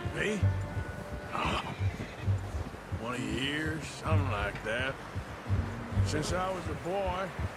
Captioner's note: laughs